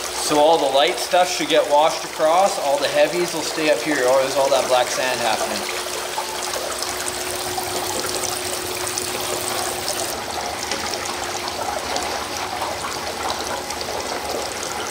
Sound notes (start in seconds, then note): 6.4 water running